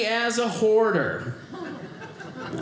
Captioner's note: audience laughing